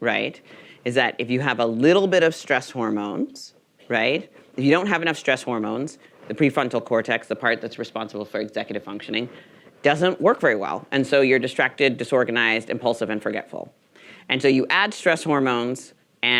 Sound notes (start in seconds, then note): none